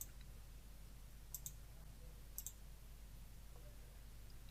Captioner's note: mouse clicking